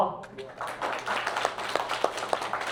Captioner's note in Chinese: 掌聲